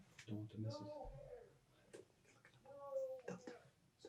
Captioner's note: whispering